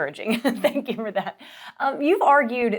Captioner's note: chuckles